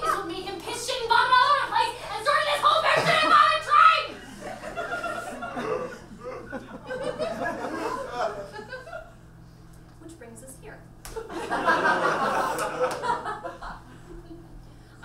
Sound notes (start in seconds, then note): 4.1 audience laughs; 11.2 audience laughs